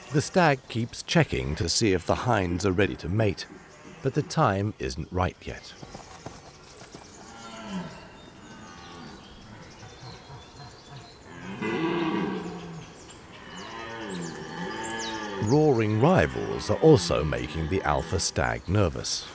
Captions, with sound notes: The stag keeps checking to see if the hinds are ready to mate, but the time isn't right yet. [deer roaring] Roaring rivals are also making the alpha stag nervous.